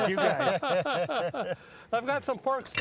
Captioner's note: hosts laugh